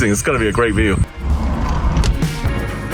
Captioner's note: door whirring; helicopter engine roaring; upbeat electronic music